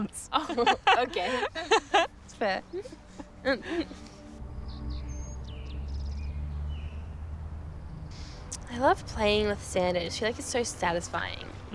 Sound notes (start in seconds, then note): 0.4 laughing; 2.3 birds chirping; 3.4 gentle melodic music